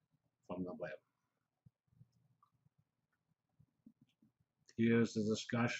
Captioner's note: pause